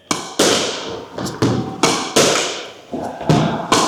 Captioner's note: ball bangs